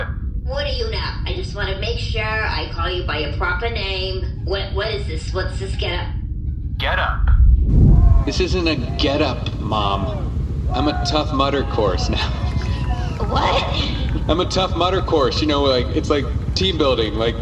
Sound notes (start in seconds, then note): 11.6 laughing